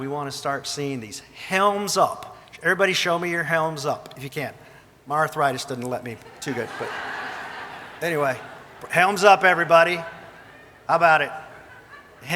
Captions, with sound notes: we want to start seeing these Helms Up. Everybody show me your Helms Up if you can. My arthritis doesn't let me too good, but anyway. (audience laughing) Helms up, everybody. How about it?